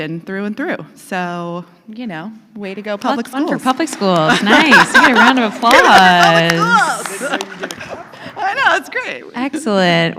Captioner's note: applause